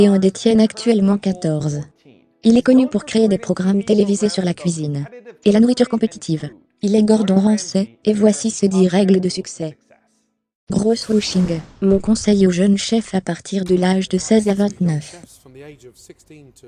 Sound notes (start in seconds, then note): 10.8 loud swooshing